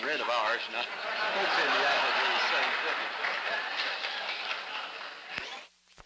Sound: laughter

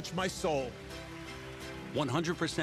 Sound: applauds

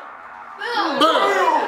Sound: audience cheers

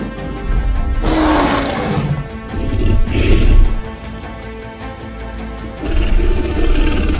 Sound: T-Rex growls and stomps

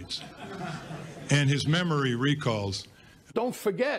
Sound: laughter

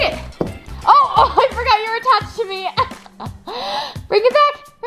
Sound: laughs

